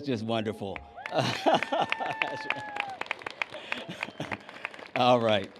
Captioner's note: cheers and applause